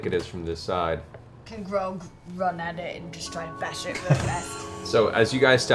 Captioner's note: Grog voice